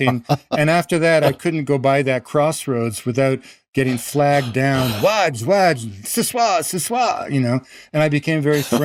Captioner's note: haitian Creole